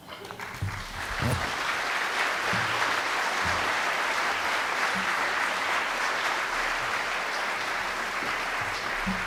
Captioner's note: audience Claps